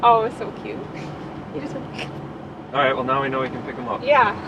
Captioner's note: she hisses